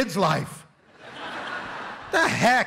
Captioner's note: laughter